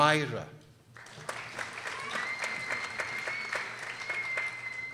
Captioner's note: people applauding